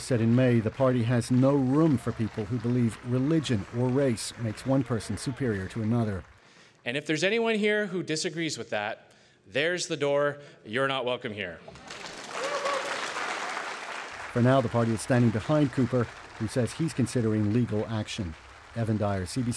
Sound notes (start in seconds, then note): 14.4 applause